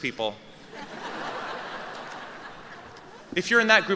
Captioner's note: laughter